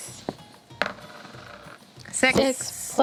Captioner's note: dice rolls